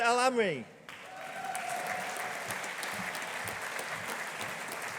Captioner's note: audience applauding